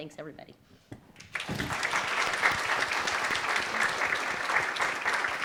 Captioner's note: audience applauds